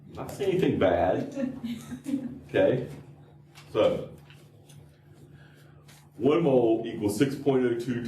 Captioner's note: laughter